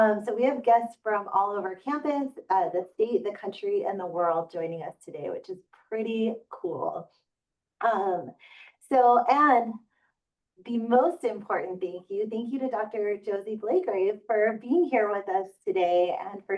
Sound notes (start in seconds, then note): none